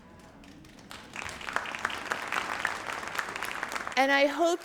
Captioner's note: audience applauds